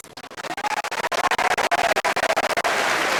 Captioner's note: applause